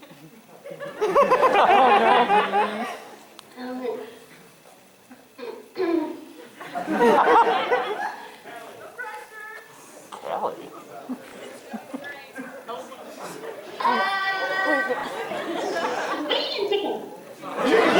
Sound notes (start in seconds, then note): 0.6 laughter; 5.4 Kiara clears throat